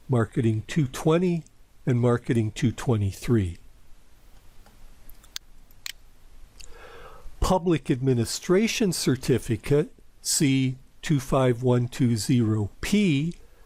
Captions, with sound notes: Marketing 220, and Marketing 223. [PowerPoint click] Public Administration Certificate, C25120P,